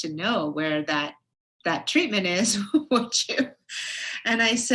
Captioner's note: laughs